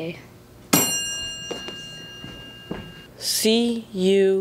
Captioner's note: ding